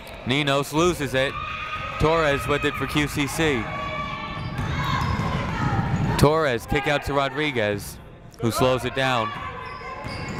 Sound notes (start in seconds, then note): none